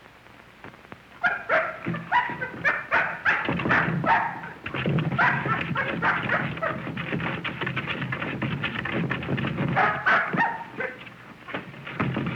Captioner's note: barking and clawing